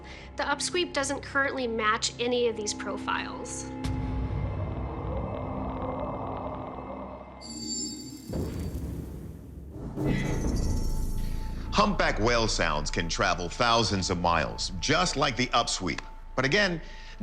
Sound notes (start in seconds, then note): 4.2 mysterious sounds vibrating; 7.6 mysterious music